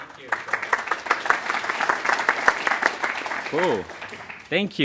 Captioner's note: applause